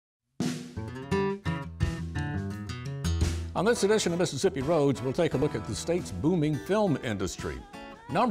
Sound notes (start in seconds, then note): 3.7 voiceover